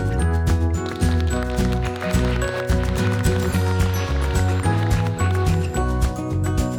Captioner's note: applause